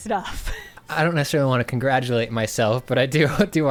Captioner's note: pat